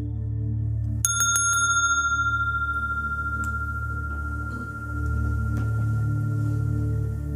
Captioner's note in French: fait sonner la clochette